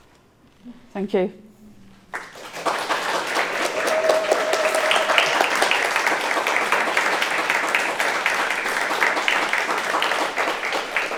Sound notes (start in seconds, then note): 2.1 audience applauding and cheering